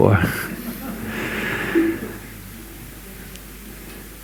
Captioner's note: laughter